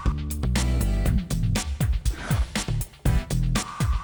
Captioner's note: none